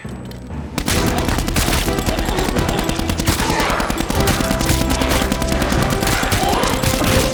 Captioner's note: triumphant music; gunshots popping